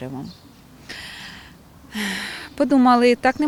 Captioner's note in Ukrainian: зітхає